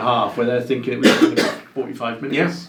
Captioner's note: coughing